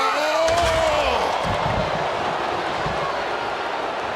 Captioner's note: Wade screams